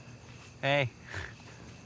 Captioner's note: snorts